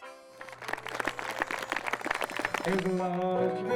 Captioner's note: clapping